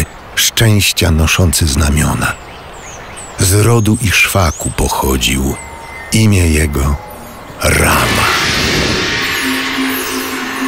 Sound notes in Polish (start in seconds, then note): 7.8 gong